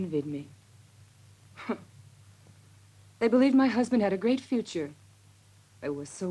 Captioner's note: scoffs